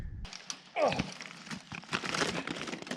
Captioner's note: grunt